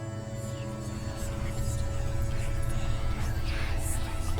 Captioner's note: eerie whispering